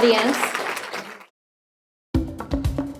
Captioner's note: audience applauds; upbeat music